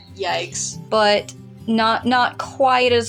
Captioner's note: none